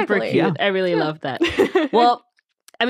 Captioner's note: laughing